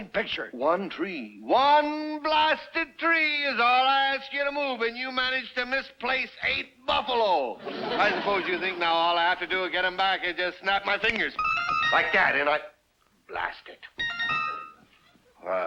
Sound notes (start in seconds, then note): 11.0 finger snaps; 11.4 whimsical chimes; 14.0 whimsical chimes